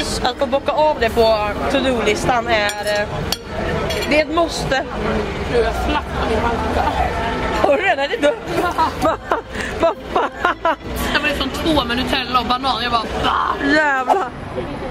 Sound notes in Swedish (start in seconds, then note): 8.2 Skratt